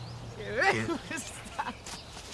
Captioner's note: laughter